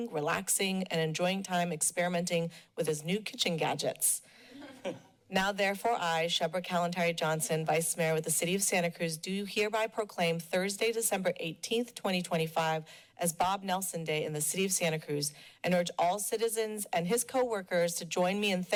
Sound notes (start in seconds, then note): 4.5 laughter